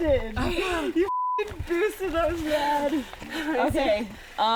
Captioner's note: beep